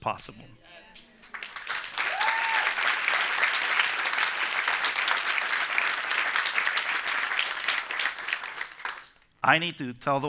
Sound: applause

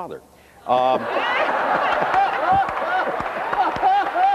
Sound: laughter

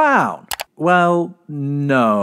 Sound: click

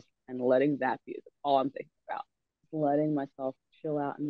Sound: none

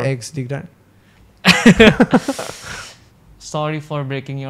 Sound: laughs

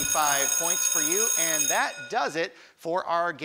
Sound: class bell

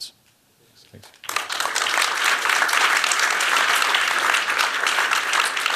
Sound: applause

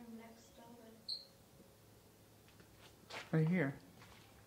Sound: wheel squeaks

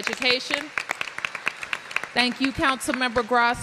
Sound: applause

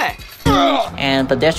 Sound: auOugHh

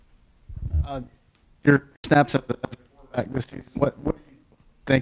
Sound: microphone glitching

